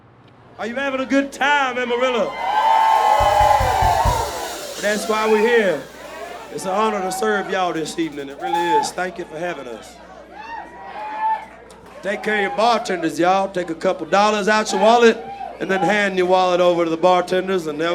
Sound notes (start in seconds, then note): 2.0 crowd cheers